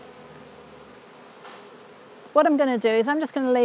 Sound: bees buzz

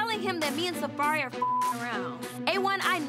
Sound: beep

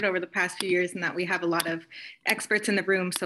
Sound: mouse clicking sound

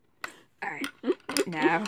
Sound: chuckling

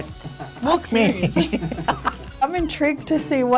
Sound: both laughing

